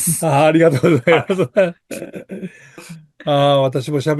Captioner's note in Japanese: 笑い